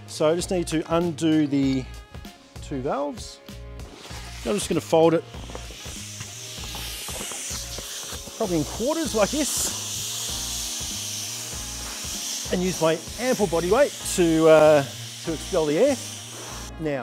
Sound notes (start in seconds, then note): 9.6 mat deflating